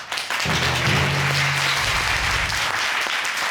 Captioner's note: audience applauding